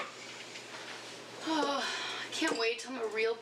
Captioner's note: sighs